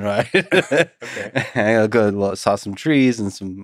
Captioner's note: laughs